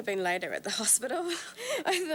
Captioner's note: laughs